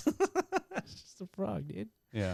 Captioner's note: laughing